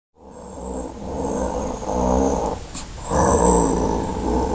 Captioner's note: orc snarling